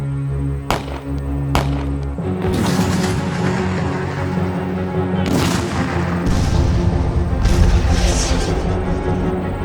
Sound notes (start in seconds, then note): 2.4 cannons booming